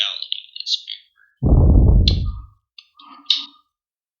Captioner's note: blows directly into mic